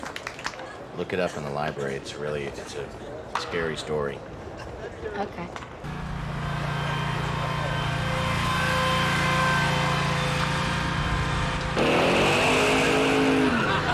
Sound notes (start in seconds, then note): 5.8 engine whirring; 11.9 engine roaring